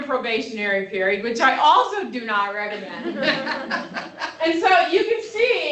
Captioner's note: laughter